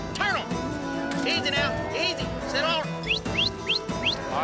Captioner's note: whistling